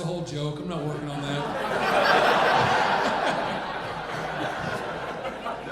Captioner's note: audience laughing